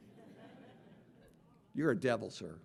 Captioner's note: audience laughing